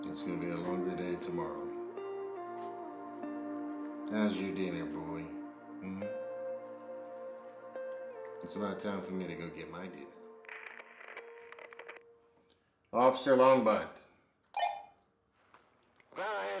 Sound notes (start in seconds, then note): 10.4 radio crackles; 14.7 radio beeps